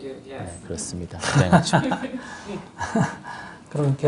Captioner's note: /Questioner Laughter